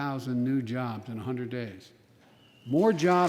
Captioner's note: applause